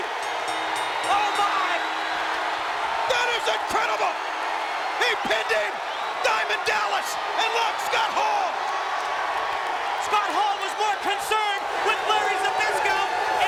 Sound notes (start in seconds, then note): 0.0 bell ringing; 8.7 audience cheering